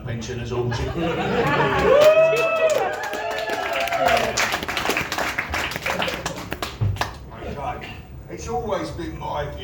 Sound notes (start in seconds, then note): 0.8 laughter and applause